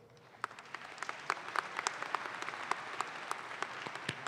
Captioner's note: audience claps